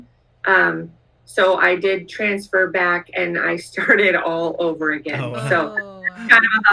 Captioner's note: laughs